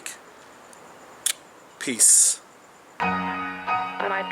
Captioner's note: kissing sound